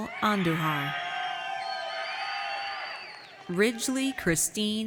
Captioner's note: audience cheers